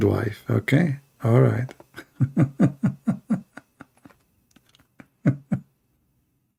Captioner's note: Ketawa